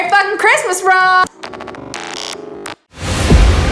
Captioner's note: projector film ends